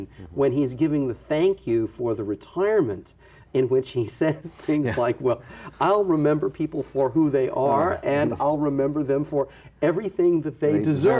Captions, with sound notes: scene when he's giving the thank you for the retirement, in which he says [chuckles] things like, well, I'll remember people for who they are, and I'll remember them for everything that they